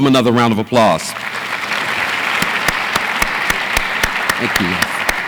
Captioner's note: audience applauds